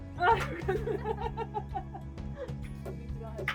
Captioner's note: laughs